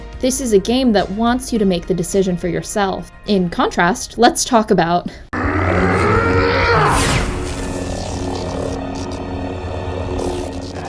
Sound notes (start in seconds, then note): 6.2 yells and swings lightsaber; 7.9 lightsaber hums